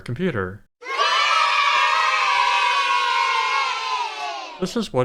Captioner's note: kids cheering